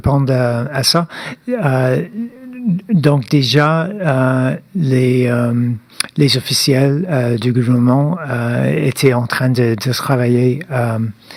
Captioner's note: speaking French